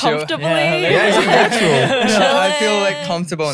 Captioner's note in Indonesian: tertawa